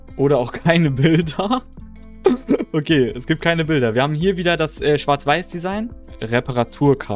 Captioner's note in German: gelächter